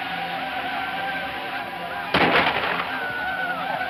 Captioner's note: gunshots